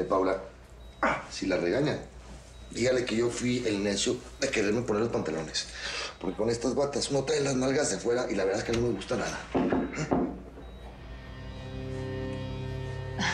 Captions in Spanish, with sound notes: - MIRA, PAULA, SI LA REGAÑAN, DIGALE QUE YO FUI EL NECIO DE QUERERME PONER LOS PANTALONES, PORQUE CON ESTAS BATAS UNO TRAE LAS NALGAS AFUERA Y, LA VERDAD, NO ME GUSTA NADA, ¿JUM? [Toques en la puerta]